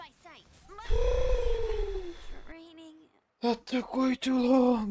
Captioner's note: sighs